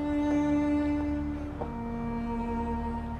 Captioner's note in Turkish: Ayak sesi